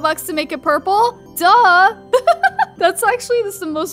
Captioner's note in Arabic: يضحك